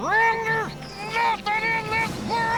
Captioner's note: eagle whistles